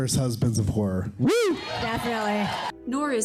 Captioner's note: cheering